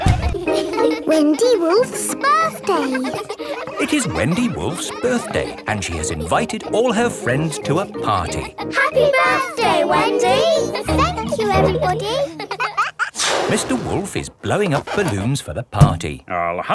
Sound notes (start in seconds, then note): 3.6 kids laughing